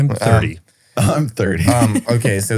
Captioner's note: laughs